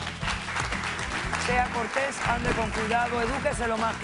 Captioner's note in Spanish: Aplausos